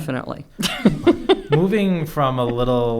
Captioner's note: chuckles